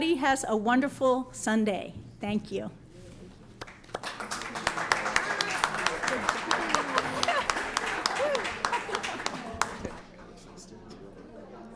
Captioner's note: applause